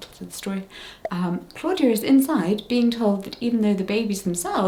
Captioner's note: bubble pops